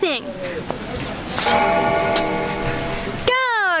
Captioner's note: bell ringing